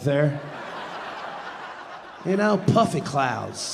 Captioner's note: audience laughing